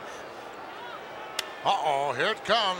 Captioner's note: Yokozuna claps